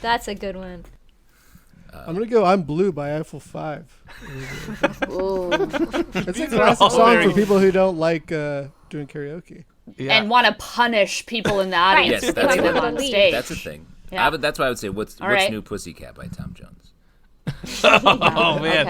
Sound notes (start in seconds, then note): 4.1 laughter; 9.7 laughter